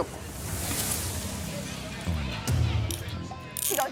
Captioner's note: clicking